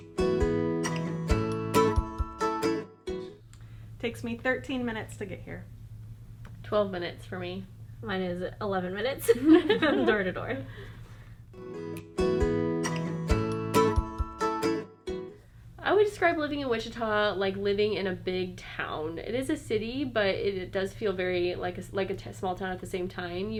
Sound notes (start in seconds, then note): 9.3 laughing